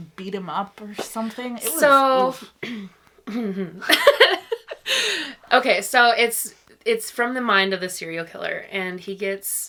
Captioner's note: clears through daintily, laughs